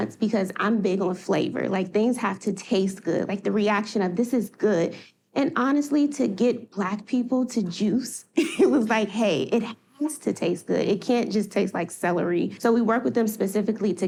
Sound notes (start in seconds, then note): 8.0 laughing